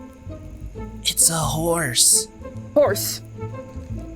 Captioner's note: whispers